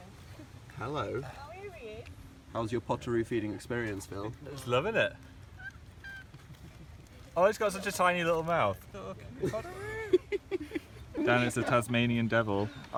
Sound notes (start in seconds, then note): 9.3 laughing